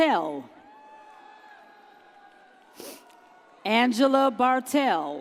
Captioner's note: audience cheers